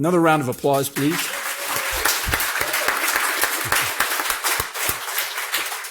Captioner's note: audience applauding